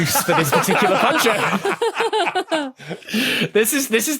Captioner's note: others laugh uproariously